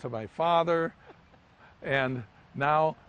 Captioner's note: laughs